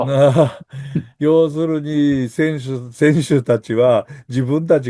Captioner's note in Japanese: 笑い